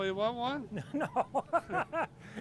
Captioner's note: laughing